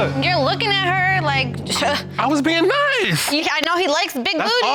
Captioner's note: toots